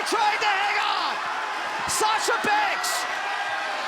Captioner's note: crowd cheering